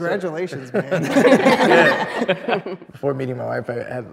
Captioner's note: group laughs